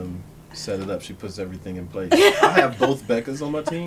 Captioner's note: laughter